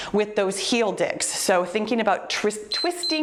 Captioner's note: timer beeps